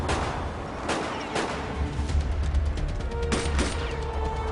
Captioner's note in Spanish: Disparos